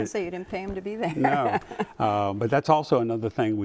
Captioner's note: laughs